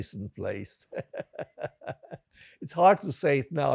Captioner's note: laughing